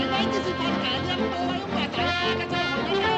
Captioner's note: man speaking Chinese